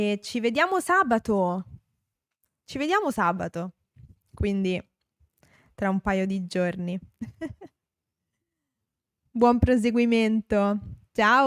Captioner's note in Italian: risate